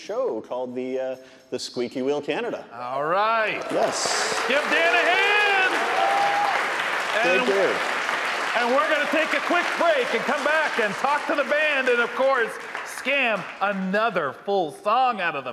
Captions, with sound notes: called "The Squeaky Wheel Canada." All right. Yes. Give Dan a hand! (audience applauding) Thank you! And we're gonna take a quick break and come back and talk to the band and of course, scam another full song out of them,